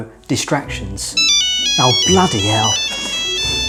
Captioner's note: phone beeping